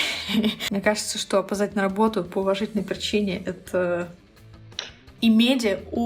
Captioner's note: chef’s kiss